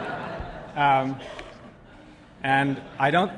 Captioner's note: laughter